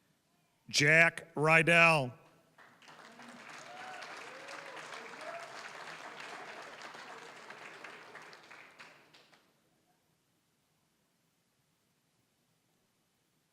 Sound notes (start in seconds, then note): 2.6 applause, cheering; 8.4 applause